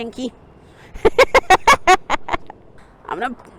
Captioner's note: laughing